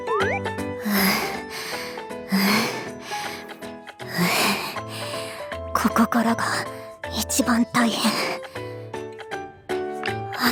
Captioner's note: pant